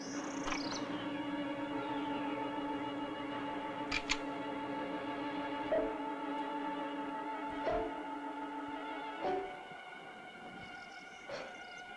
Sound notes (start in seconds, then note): 0.3 worrying music; 3.9 cocking gun; 5.7 worrying music